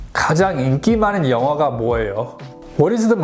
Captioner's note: speaks Korean